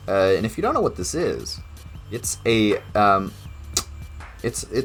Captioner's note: stammering